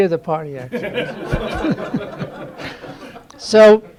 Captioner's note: laughter